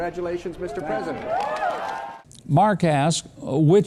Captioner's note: audience cheering